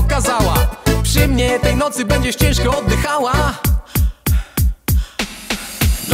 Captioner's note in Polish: oddech